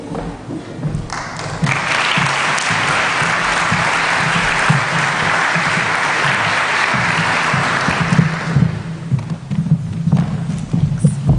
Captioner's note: applause